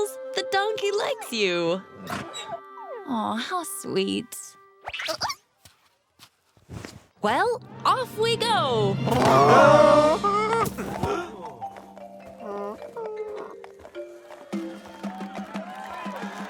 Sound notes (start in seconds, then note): 4.7 caterpillar noises; 8.8 groaning